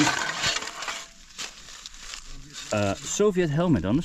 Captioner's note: leaves rustling